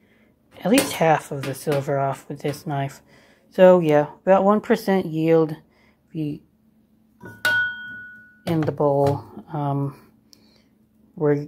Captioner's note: clank